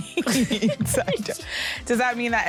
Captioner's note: laughter